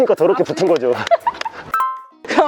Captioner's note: laughter